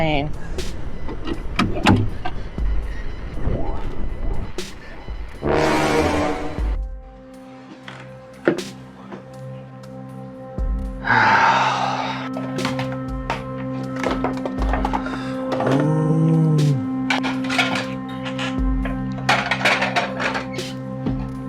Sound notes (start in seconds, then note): 11.0 sigh; 14.8 groan; 19.4 suspensful music